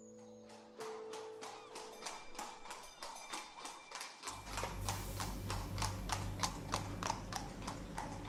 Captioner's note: clattering hoofs